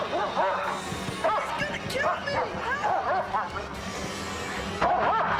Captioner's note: barking Continues